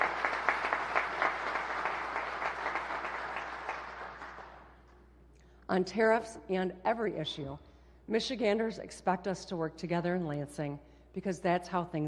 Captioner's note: applause